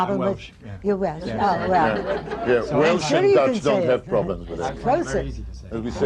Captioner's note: laughter